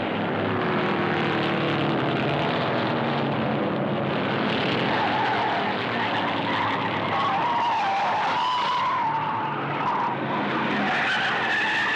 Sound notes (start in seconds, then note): 4.1 tires screeching